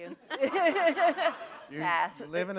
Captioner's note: laughter